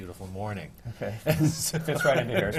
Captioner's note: laughter